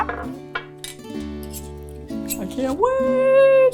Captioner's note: utensils scraping